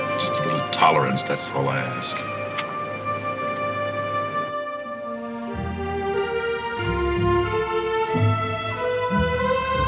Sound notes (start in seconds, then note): 2.3 lips smacking